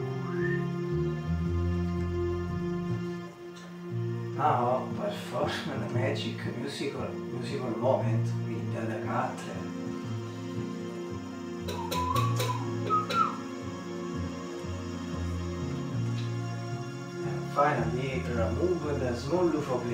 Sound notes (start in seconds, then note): 0.0 whistle; 11.6 whistle